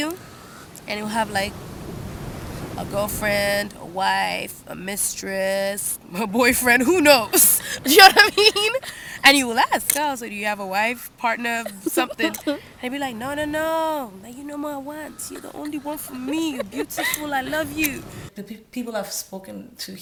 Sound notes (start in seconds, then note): 6.7 laughing